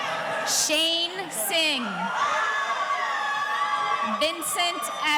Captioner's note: audience cheering